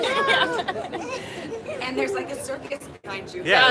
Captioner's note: laughter